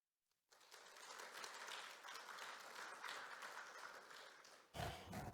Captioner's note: applause